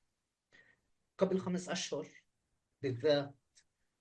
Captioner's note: speaking arabic